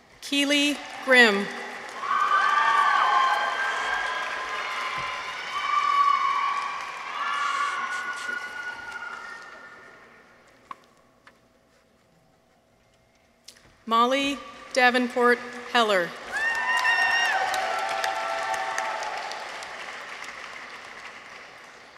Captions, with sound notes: Keeley Grimm. -(people cheer) -(audience applauds) Molly Davenport Heller. -(people cheer) -(audience applauds)